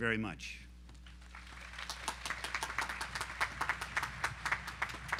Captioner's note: audience applauding